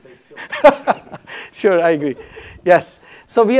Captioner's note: laughs